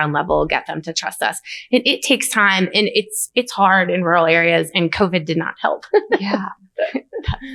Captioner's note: laughs